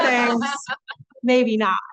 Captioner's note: laughter